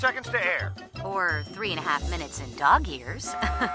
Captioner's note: laugh